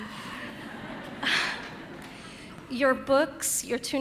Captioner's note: audience laughing